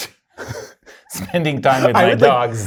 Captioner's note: both laughing